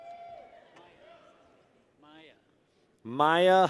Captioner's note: people cheer